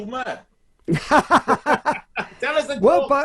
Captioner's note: both laugh